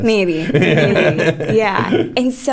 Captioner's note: laughter